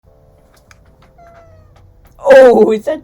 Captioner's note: cat meowing